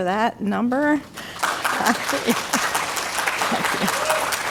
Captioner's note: audience applauds